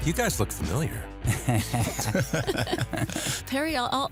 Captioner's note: laughter